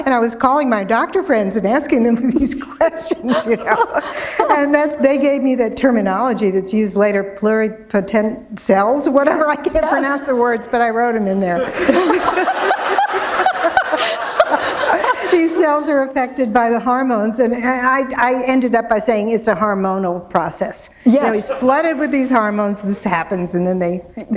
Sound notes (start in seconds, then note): 12.8 laughter